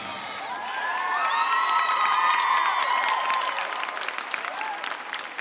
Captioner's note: choir members cheering